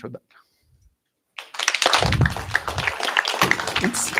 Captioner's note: applause